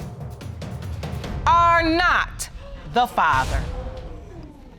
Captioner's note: audience exclaiming